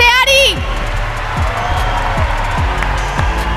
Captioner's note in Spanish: Gritos